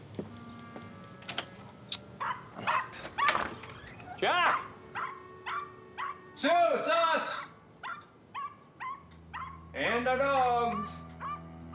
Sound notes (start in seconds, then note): 1.2 door clicking; 2.2 dog barking; 5.4 dog barking; 9.3 dog barking